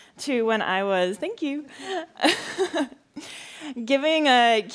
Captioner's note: laughs